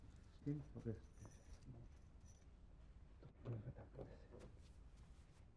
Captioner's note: man speaking unknown foreign language